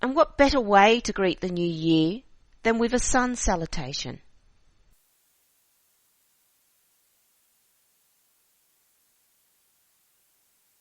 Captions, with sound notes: And what better way to greet the new year than with a sun salutation. [silence]